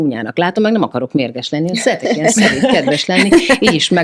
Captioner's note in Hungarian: nevetés